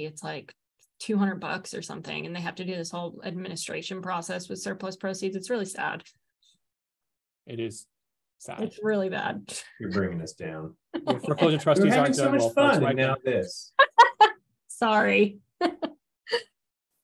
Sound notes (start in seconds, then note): 11.0 chuckles; 15.6 laughs; 15.6 chuckles